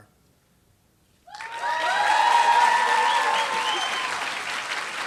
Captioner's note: applause